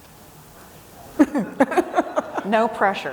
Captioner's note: audience member laughing